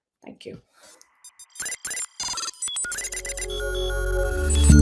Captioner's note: digital squelching and beeping